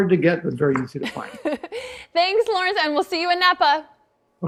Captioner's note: laughs